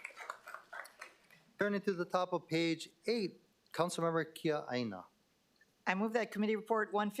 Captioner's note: applause